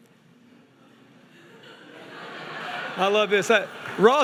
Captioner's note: crowd laughing